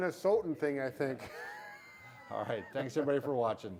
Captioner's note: laughter